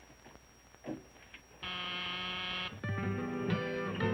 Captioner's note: door buzzer